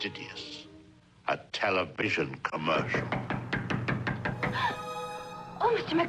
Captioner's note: knocking